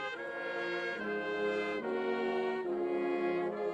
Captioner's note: none